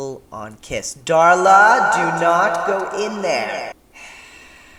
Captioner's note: echoing